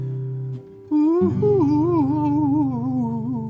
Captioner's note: humming